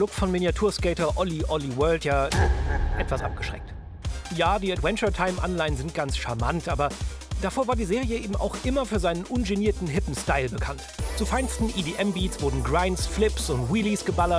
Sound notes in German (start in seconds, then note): 2.3 Düsteres Lachen